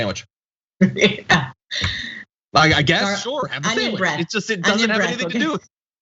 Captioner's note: laugh